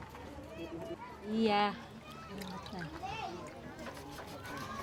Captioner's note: speaking Austronesian language